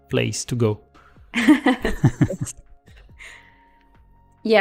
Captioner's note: laughter